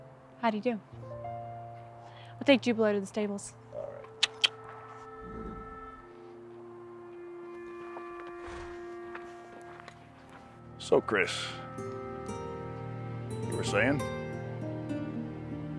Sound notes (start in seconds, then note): 4.8 Amy clicks; 5.1 Jubilee grunts; 7.6 gentle music